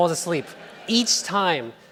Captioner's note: laughing